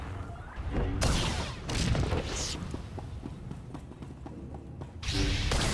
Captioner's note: gunshots